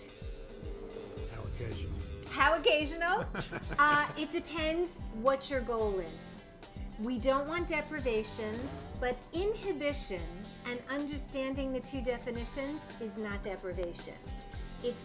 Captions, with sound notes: How occasional? (laughter) How occasional, it depends what your goal is. We don't want deprivation but inhibition and understanding the two definitions is not deprivation.